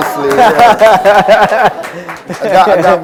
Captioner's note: laughter